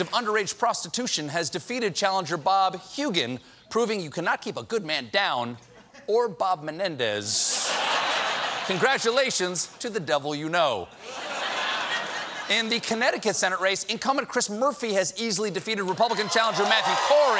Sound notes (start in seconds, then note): 10.9 laughter